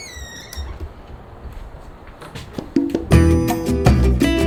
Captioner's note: door squeaks; upbeat music